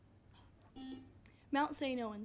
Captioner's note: buzzer buzzes